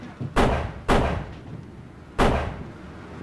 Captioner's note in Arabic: نار البنادق